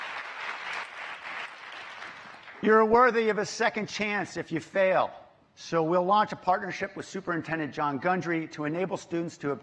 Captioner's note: applause